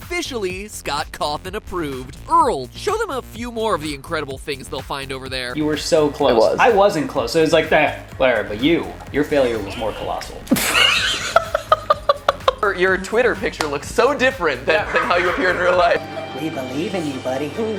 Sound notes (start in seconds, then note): 10.6 dolphin laugh